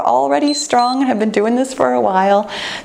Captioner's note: timer beeps